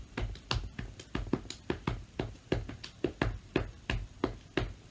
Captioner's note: patting rhythmically